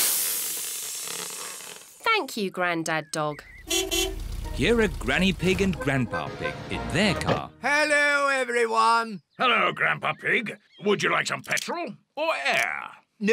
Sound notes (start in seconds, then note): 0.0 air hissing; 3.6 horn beeps